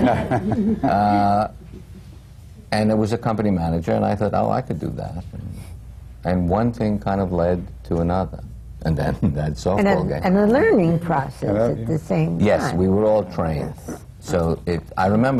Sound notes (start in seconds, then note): 0.0 laughter